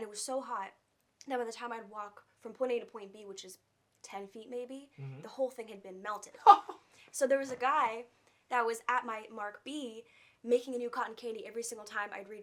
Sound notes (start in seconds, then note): 6.4 laughing